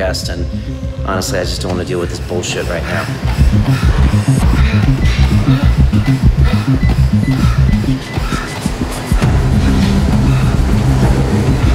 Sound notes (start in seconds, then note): 4.6 heavy breathing; 4.6 tense electronic music